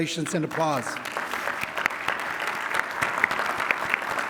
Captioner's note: applause